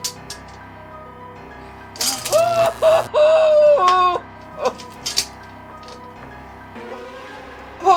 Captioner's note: electric shock and Alex's muffled screams